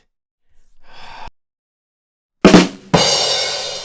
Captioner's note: sigh